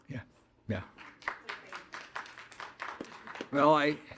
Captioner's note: audience applauding